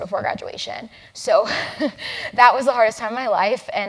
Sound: laugh

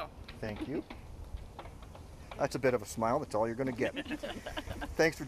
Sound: chuckles

